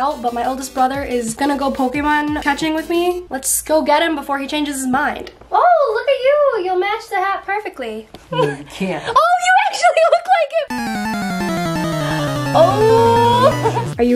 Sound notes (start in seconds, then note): 8.3 laughing; 10.7 digital game music